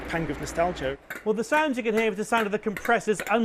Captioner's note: ticking